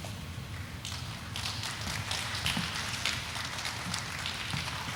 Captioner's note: audience applauding